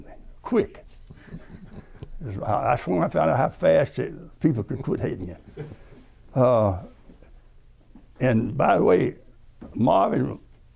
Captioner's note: laughter